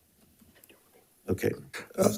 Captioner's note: member speaking faintly